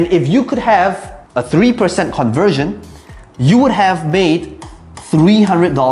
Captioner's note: tapping marker